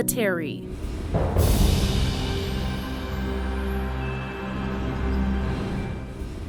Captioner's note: soft music; wind whooshing